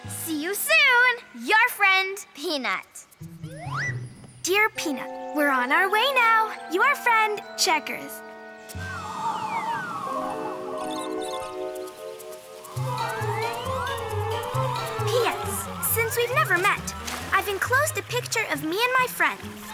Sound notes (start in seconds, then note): 9.1 wind rustling; 11.2 butterfly chirps; 13.1 lively music